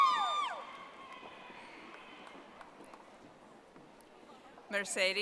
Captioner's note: audience applauding